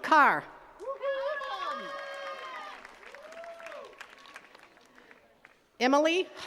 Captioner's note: attendees cheering and clapping